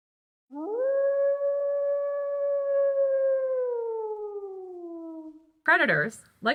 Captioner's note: wolf howl